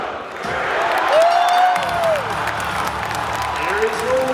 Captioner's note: crowd cheers